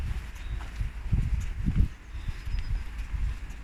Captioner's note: birdsong